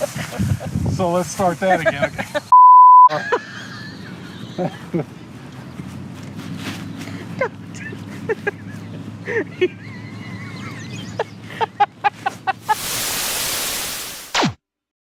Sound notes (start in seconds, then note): 3.1 laughing hysterically!